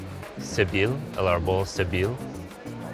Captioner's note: speaking Spanish